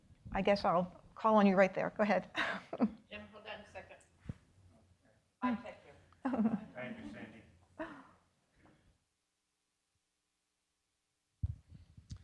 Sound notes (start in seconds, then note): 5.4 woman chattering